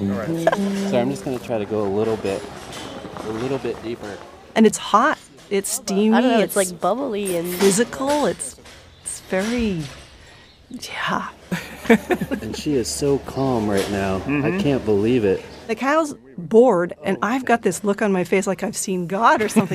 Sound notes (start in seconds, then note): 11.4 laughs